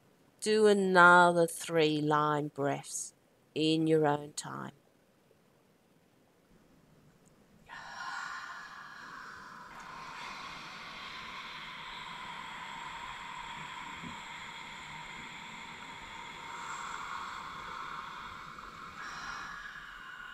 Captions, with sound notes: Do another three Lion breaths in your own time. (breathy exhalations)